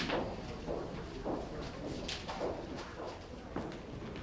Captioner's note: people chattering